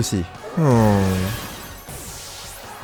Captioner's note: sigh